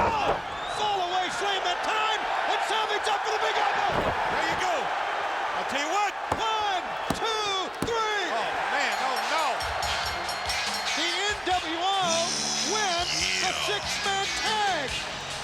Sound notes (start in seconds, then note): 9.9 ring bell dinging